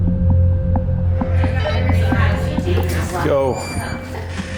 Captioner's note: background chatter